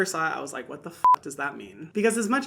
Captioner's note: beep